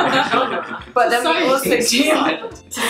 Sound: laughing

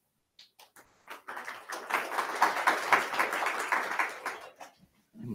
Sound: attendees clapping

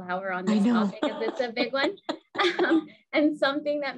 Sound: laughing; laughs

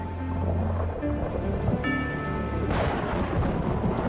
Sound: thunderclap

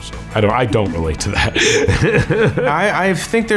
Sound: laughs

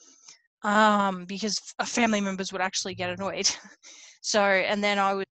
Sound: laughs

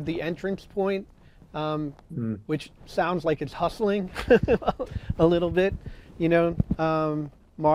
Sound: chuckle

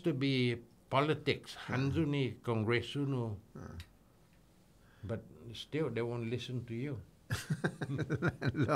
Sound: laughing

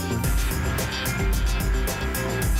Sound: whoosh

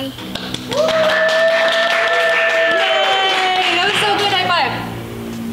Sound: cheers and applause

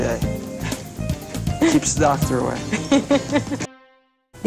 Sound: laughter

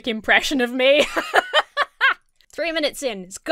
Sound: laughs

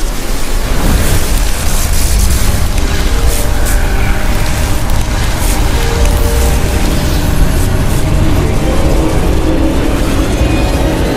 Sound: electrical crackling

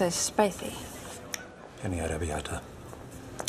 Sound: snapping of fingers

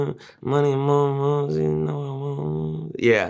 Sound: humming

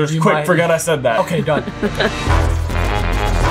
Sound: upbeat music plays; laughs

